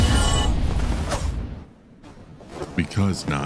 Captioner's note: fighting, Metal Clashing; footsteps Approaching